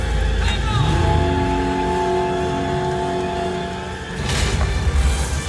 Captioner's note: engine roaring; explosions